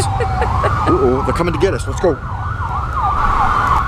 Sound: chuckles; police siren

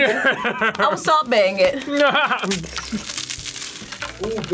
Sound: laughs

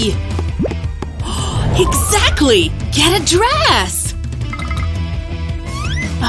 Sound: making frustrated sounds

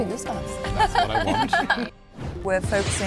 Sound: laughing

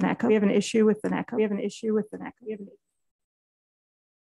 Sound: voice echoing

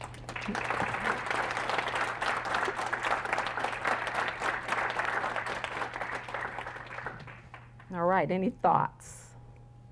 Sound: applause

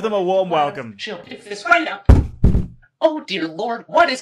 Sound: muffled complaining

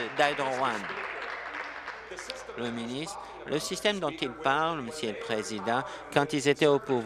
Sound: applause

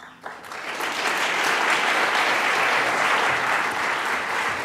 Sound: audience applause

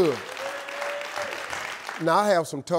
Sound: applause

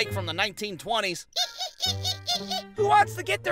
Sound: squeaking sound as Michael rides

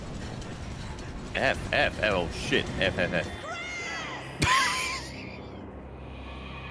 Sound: laughs

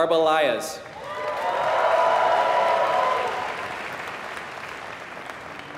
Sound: applause

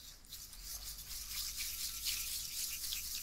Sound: stirring sound

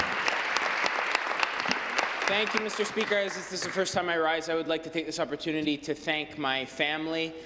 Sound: applause

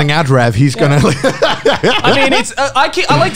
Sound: laughing loudly

